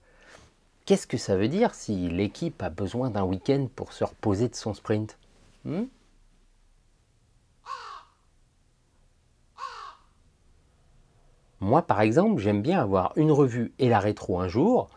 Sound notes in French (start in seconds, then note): 7.0 Coassements